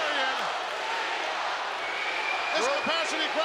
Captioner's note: audience cheering